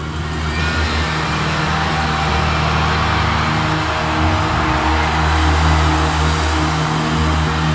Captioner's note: crowd cheering